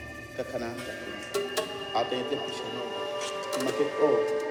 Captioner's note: speaks in Maya